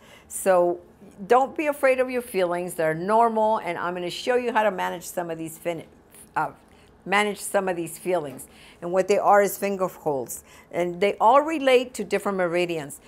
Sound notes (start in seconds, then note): 6.0 stutters